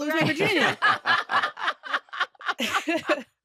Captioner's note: laughter